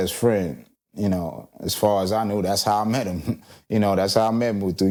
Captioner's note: chuckling